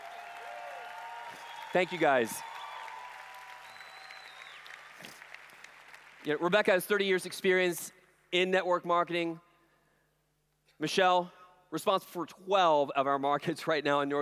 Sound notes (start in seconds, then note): 0.0 applause/Cheering; 3.1 applause